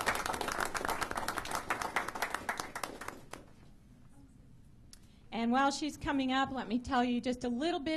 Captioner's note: applause